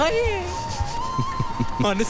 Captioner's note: Laughs